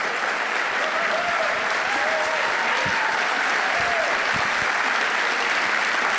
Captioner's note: audience applauding and cheering